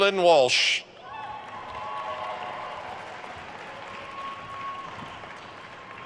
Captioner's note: attendees cheering and applauding